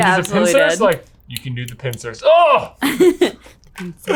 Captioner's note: all mumbling